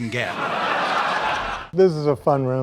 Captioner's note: audience laughs